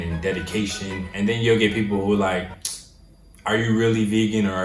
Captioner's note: clicks